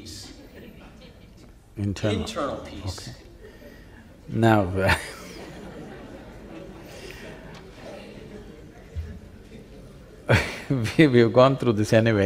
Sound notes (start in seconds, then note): 4.8 laughter